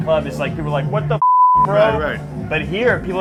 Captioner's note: beeping tone